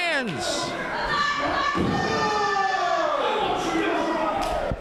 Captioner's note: commotion continues